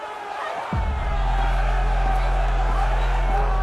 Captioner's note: angry crowd shouting